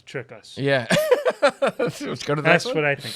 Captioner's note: laughs